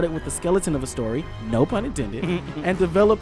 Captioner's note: giggles